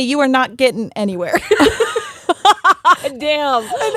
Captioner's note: both laughing